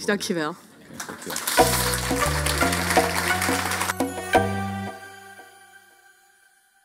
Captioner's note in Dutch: Applaus en muziek